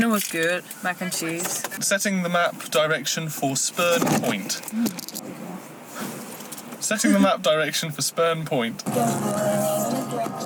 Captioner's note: loud cracking noise